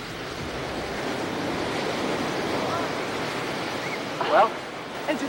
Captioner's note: ocean roars and waves crash